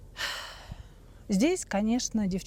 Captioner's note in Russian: вздыхает